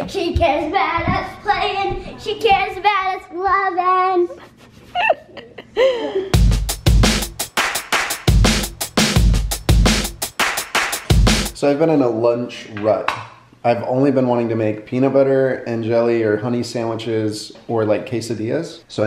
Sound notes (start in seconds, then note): 4.8 laughing; 6.3 upbeat drumming